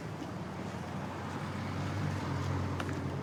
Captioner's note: vehicles driving